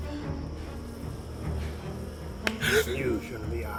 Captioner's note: flies buzzing; Miles gasps